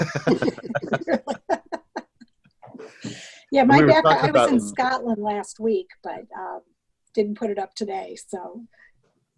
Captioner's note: laugh